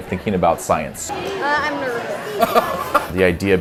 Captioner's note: laughter